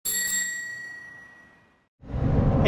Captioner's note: bike bell